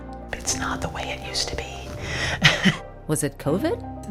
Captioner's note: whispering